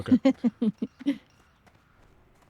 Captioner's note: laughter